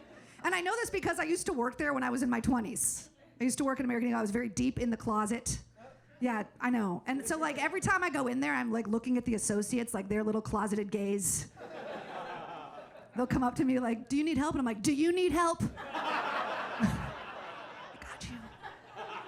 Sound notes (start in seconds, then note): 11.6 audience laughs; 15.7 audience laughs